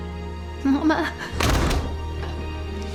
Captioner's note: door shuts